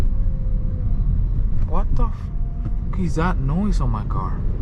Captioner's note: car engine roaring